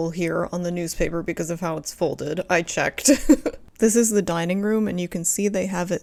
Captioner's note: laugh